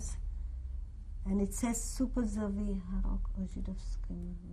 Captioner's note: non-english speech